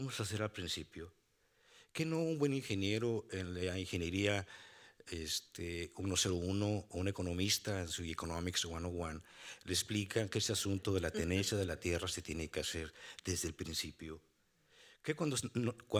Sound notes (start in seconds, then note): 9.3 speaking Spanish; 11.5 moderator laughing; 12.3 speaking Spanish